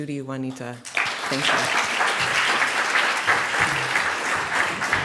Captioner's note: applause